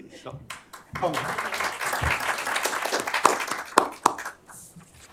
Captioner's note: applause